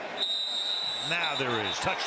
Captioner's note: whistle